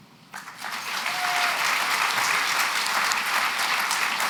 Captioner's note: applause